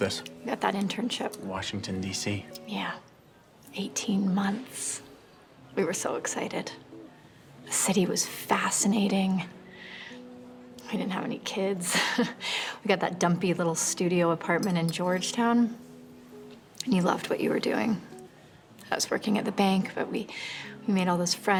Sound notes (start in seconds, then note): 11.9 laughs